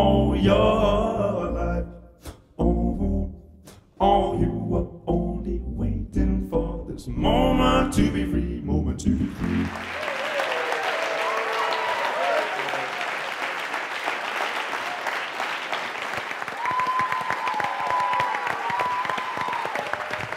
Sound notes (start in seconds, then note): 11.0 applause